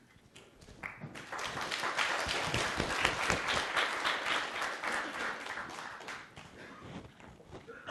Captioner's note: applause